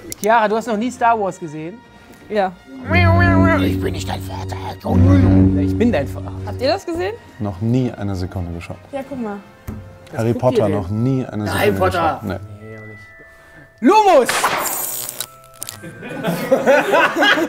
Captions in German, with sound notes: Chiara, du hast noch nie "Star Wars" gesehen. - Ja. (Er macht sphärische Laute.) Ich bin nicht dein Vater. Ich bin ... - Habt ihr's gesehen? Noch nie eine Sekunde geschaut. Ja, guck mal. - "Harry Potter", noch nie. Harry Potter? - Nee. Lumos! (Klirren) (Lachen)